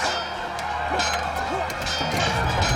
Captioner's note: metal clanging